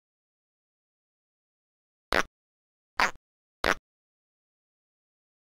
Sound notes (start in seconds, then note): 3.0 distressed croak